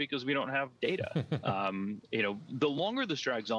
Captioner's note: laughs